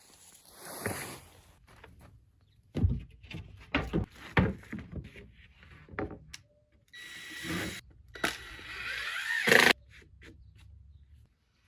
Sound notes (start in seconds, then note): 6.9 drill machine buzzing